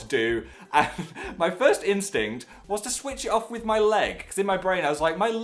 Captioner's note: laughs